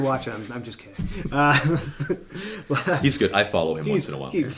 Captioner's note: laughing